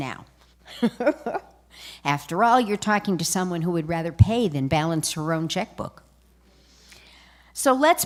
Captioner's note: laughter